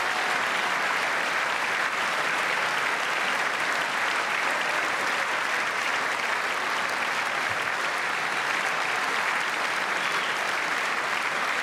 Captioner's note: cheers and applause